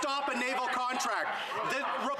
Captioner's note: some Laughter